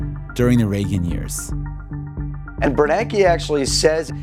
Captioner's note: soundbite of archived recording